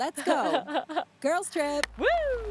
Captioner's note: Stephanie laughing